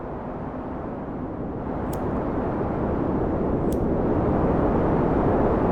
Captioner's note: lighter flicking